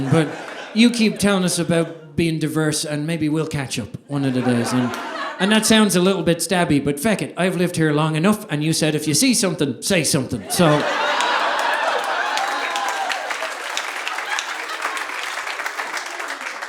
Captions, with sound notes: But you keep telling us about being diverse, and maybe we'll catch up. And that sounds a little bit stabby but feck it, I've lived here long enough and you said "if you see something, say something." (audience applauding) (audience laughing)